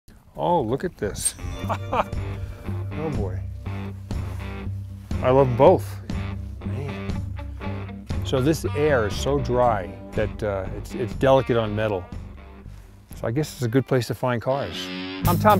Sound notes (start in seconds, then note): 1.4 laughs; 2.0 twangy electric guitar music